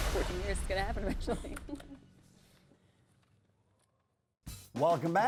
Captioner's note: laughs